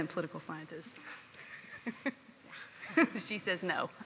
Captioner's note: chuckling